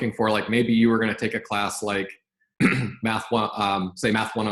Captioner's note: clears throat